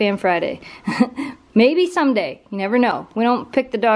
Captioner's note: laughter